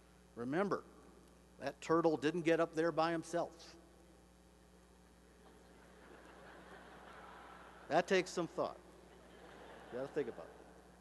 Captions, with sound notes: remember, that turtle didn't get up there by himself. [laughter] That takes some thought, just think about it.